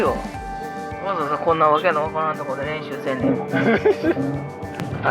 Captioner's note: laughs